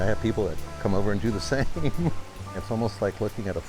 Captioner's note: laughing